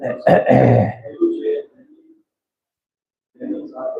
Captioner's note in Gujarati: ગળું સાફ કરે છે